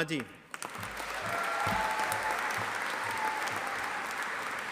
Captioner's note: audience applauding